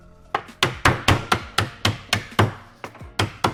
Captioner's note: pounding